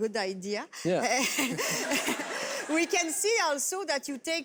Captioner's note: laughter